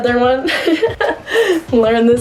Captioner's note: laughs